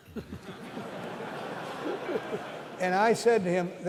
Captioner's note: laughter